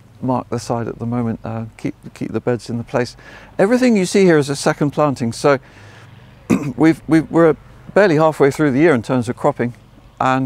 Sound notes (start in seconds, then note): 6.4 coughs